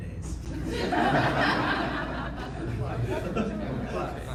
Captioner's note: audience laughing